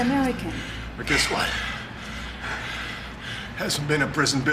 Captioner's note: breathing heavily